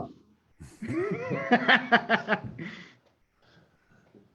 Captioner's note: laughing